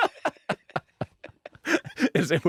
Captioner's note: laughter